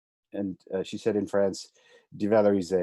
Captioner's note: speaking in foreign language